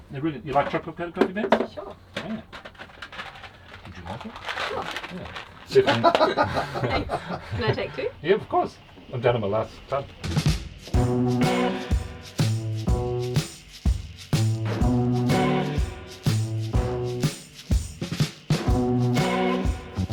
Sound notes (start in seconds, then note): 5.7 laughing; 10.9 moody rock music